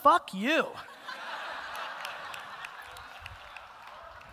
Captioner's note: audience laughter